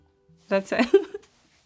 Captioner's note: laughs